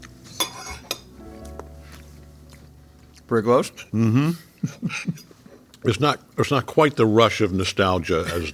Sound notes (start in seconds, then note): 0.3 fork scraping plate